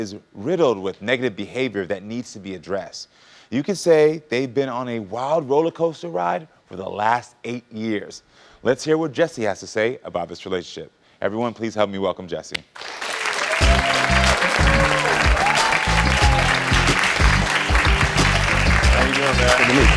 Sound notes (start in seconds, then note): 12.8 audience cheering